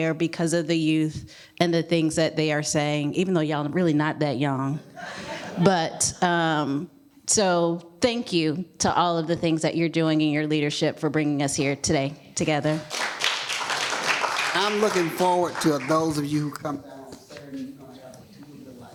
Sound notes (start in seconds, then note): 5.0 laughter; 12.6 applause